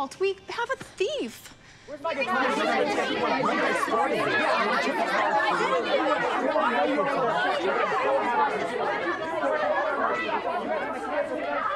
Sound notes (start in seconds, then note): 2.4 group arguing